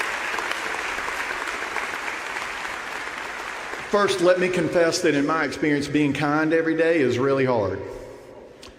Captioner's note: applause